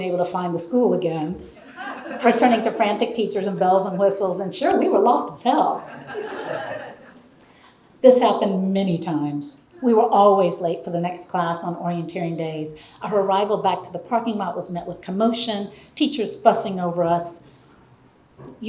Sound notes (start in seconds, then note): 5.7 audience laughing